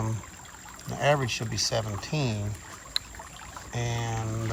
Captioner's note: water trickling